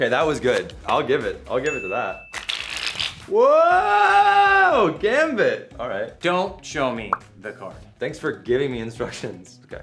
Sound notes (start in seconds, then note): 1.6 bell chimes; 2.4 cards shuffle loudly